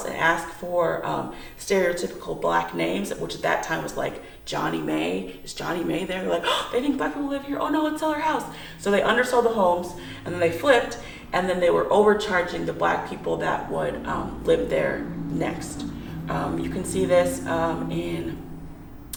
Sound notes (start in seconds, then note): 8.5 gasp